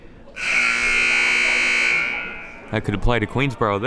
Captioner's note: buzzer blares